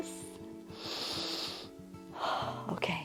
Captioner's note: inhales and exhales